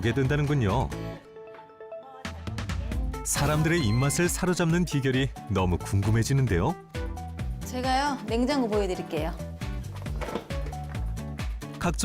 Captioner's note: voiceover